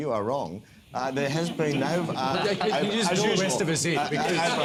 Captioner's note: laughter